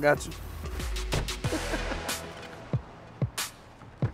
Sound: laughs

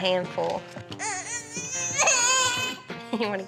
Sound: cries

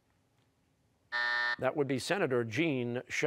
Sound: buzzer

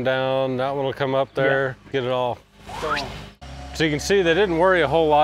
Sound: whistles

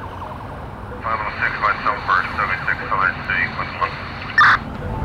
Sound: police radio chatter continued

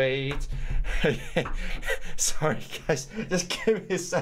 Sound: laughs

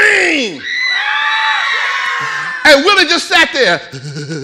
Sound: audience screaming

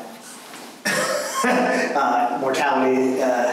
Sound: laughs

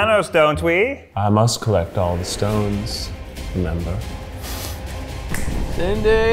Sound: snaps

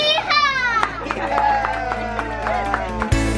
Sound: applause; happy music

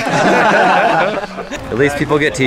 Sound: laughing

